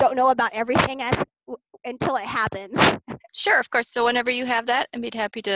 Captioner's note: laughs